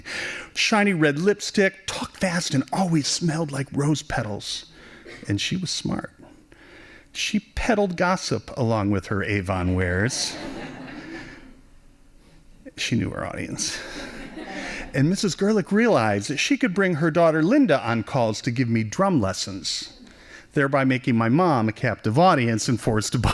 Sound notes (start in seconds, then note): 10.3 laughing